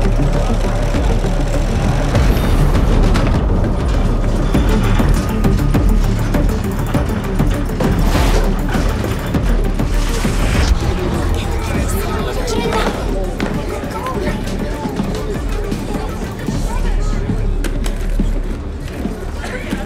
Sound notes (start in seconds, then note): 3.5 indistinct chatter; 7.4 tense music; 12.8 people clamoring